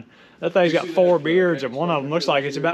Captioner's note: people converse; laughs